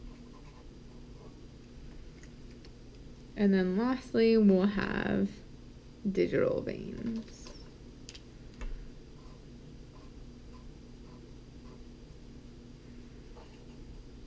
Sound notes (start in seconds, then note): 10.3 pen writing on paper